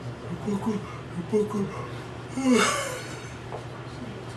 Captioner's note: yawning